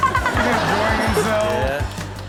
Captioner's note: Chanel giggles